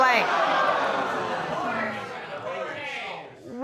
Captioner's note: audience exclaiming